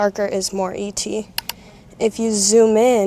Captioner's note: mouse Clicks